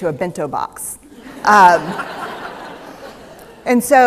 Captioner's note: laughter